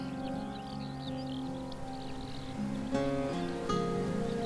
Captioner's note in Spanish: grillos y las hojas meciendose